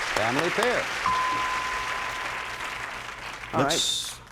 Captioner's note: applause; bell rings